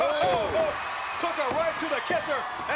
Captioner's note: commentators exclaim